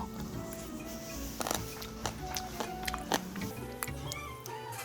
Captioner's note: the only sound in this space is crunchy radish chewing